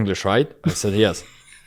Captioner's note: laughs